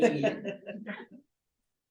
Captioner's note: laughs